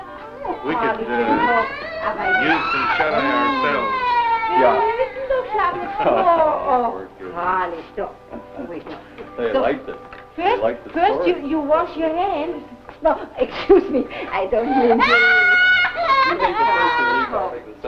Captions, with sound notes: - We could use some chardonnay ourselves. - Ja. - Aw. - [foreign language] - They liked it. They liked the story. - First, you wash your hands. - No, excuse me. I don't mean to... [child crying] - You take the first one, and I'll take the second one.